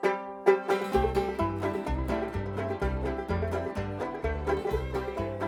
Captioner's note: deep jug vibrating